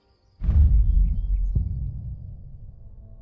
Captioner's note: tearing, then silence; dramatic thuds